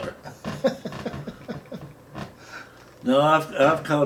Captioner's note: laughing